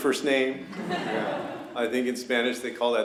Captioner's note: laughter